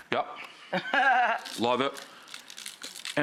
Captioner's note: Rachael laughing